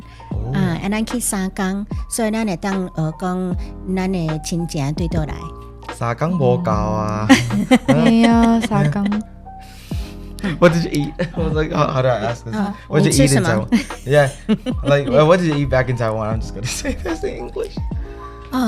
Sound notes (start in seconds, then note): 0.0 Taiwanese